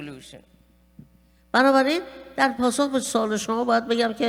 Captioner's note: speaking persian